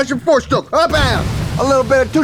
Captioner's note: chemicals exploding